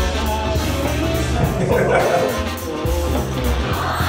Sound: everyone laughed and cried

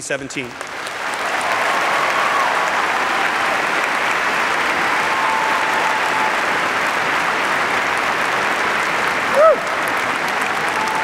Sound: applause

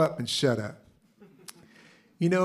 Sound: laughter

